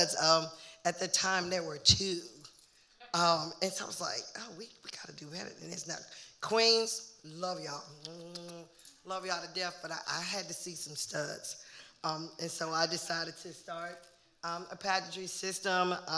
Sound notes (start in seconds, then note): 7.9 making kissing sounds